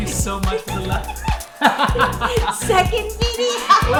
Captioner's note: laughing